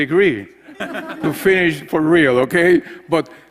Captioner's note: laugh